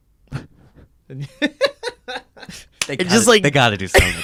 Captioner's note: laughs